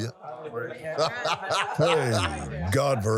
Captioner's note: laughs